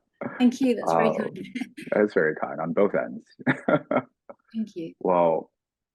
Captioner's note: laughing